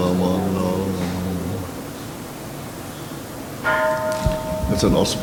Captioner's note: Kansho ringing